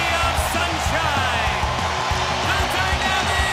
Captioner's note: crowd cheering